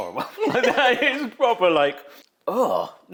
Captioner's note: laughs; host grunts